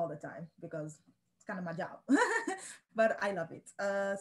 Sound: laughs

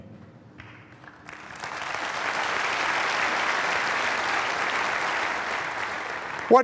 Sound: applause

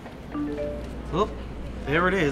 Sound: text tone

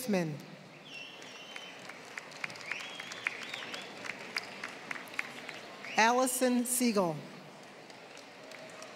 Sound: applause; applause

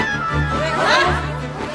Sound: crowd gasps

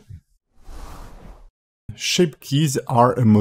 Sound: screen whooshing

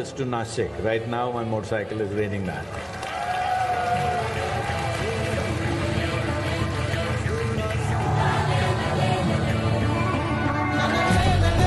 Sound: cheering

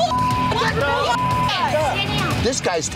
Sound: shouting; beep

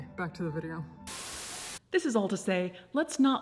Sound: static crackles

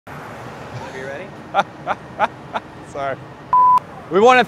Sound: laughs

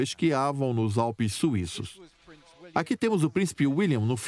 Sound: voiceover

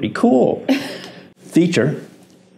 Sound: chuckling

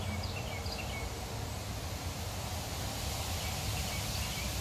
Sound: birds singing beautifully

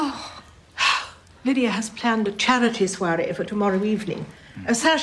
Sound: sighs

